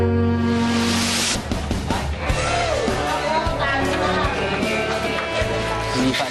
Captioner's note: somber music continues; upbeat music playing; indistinct chatter